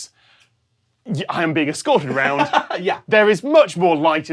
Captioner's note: chuckles